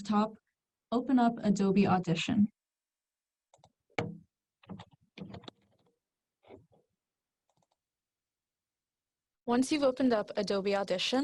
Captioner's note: clicks